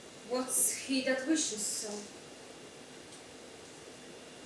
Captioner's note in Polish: Po angielsku